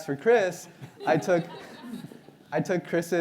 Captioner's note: audience laughs